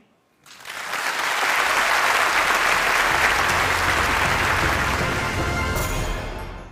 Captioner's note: applause